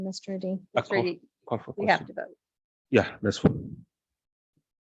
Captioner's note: group chattering